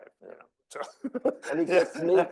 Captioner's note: laughing